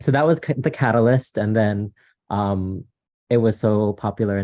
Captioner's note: none